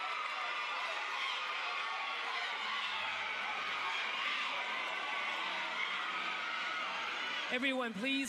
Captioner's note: crowd cheering